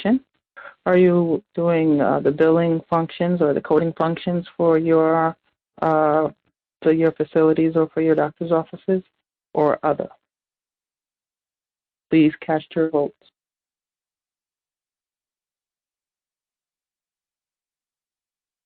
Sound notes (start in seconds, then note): 14.4 silence